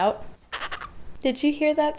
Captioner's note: bird coos